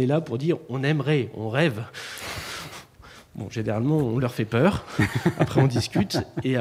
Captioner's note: laughs